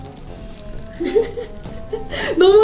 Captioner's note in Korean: 웃음